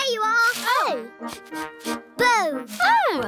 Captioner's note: sniffing